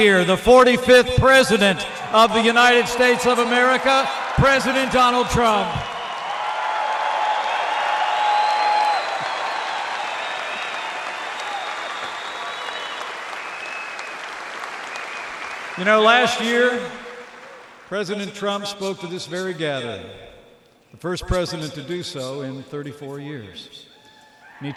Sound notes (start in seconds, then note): 6.0 applause